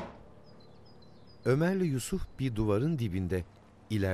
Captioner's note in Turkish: Kuş cıvıltısı sesi